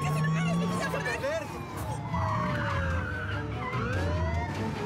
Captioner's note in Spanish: chirrido de neumáticos